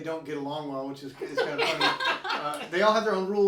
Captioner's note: all laughing